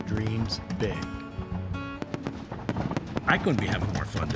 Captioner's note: fireworks popping